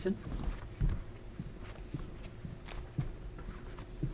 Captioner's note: heavy footfalls